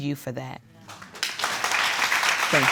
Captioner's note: audience applauds